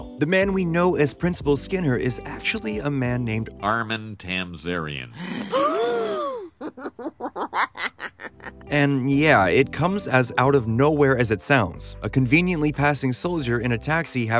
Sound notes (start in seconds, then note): 5.1 bart laughs; 5.2 people gasp